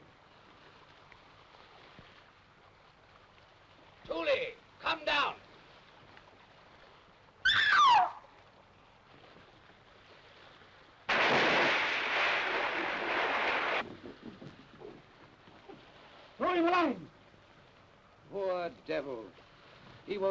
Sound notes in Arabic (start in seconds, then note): 7.4 سارة تصرخ; 11.1 رش الماء